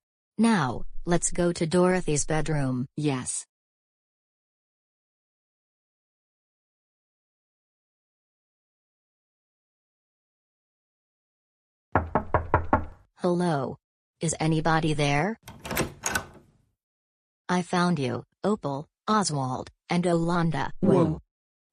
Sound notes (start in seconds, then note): 11.9 door knocks; 15.4 door opens